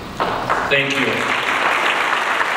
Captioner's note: audience applauds